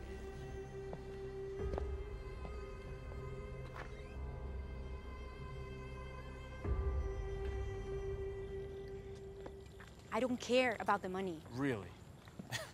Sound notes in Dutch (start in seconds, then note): 3.3 deur piept open; 12.5 lacht